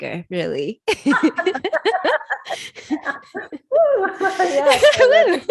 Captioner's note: both laughing